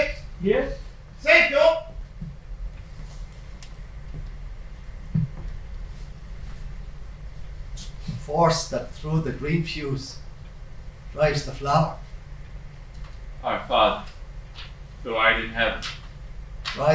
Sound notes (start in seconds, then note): none